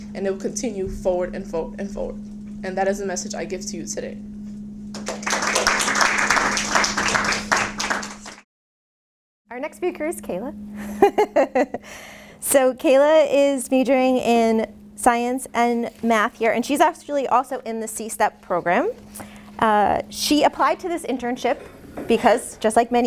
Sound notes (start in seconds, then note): 4.9 applause; 10.8 laughs